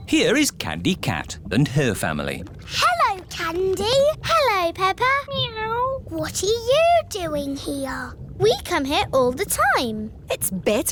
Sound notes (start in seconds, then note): none